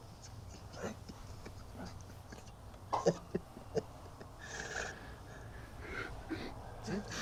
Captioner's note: sobbing